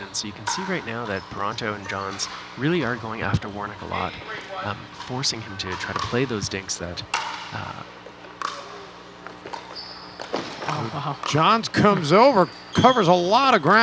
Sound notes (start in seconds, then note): 8.0 ball bouncing